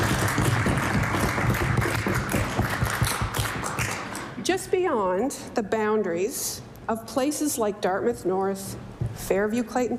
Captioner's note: applause